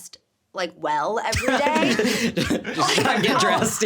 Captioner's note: laughing